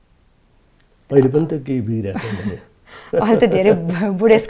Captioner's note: both laughing